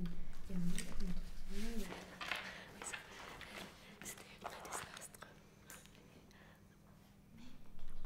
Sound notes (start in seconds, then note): 3.1 whispering